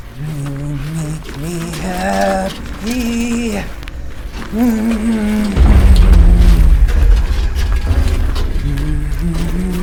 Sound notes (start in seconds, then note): 4.3 humming; 6.4 intense music; 8.6 Pete humming; 9.6 gear rattling